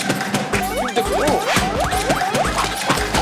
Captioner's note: flap, flap